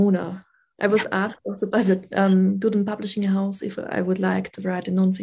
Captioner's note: speaking german